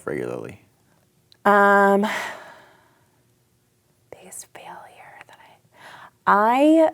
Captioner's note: whispers